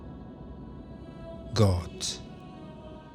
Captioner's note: german